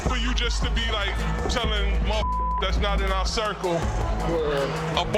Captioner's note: beep